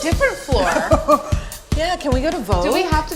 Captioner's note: laughter